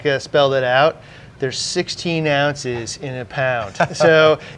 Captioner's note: laughing